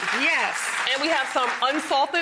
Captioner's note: applause